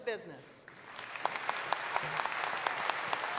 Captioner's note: applause